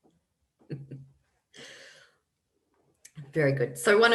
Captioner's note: laughs